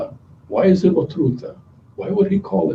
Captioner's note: non-english speech